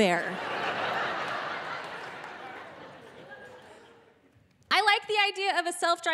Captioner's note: audience laughing